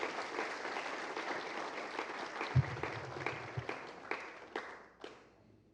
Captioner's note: applause